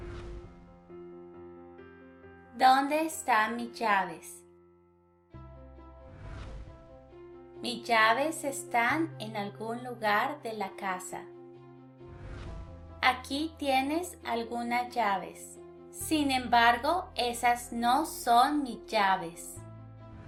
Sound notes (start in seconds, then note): 2.3 in Spanish